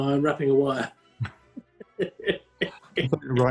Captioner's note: chuckling